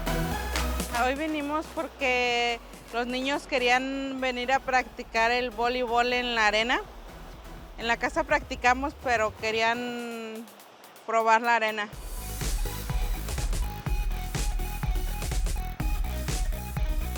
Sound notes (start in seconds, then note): 0.3 upbeat energetic music; 4.9 speaking in foreign language; 16.3 upbeat energetic music